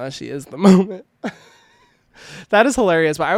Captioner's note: laughing